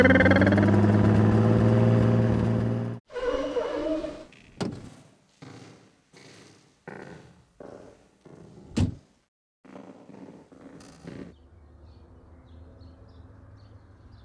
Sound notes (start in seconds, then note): 3.1 squeaking; 3.1 door opens; 6.7 footsteps; 8.7 door closes; 9.9 footsteps